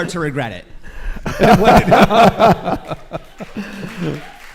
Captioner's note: laughs